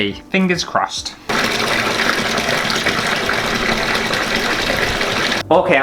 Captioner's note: bath Filling